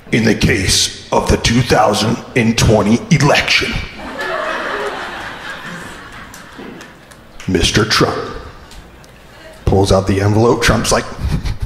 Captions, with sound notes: In the case of the 2020 election, (crowd laughing) Mr. Trump. Pulls out the envelope, Trump's like-